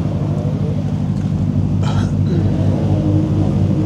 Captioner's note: hums